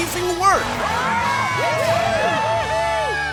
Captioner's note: cheering